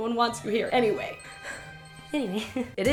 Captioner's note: exhales